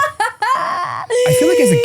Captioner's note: laughing